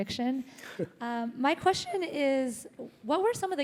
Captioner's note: laugh